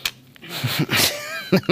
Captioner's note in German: Lachen